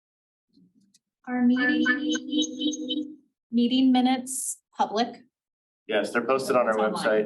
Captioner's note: audio echoing